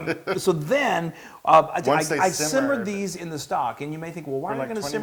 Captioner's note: laugh